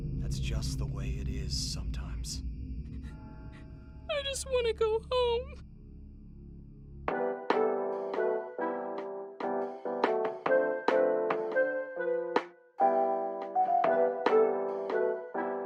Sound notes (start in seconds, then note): 2.3 whimpering; 3.9 pleading; 6.5 upbeat music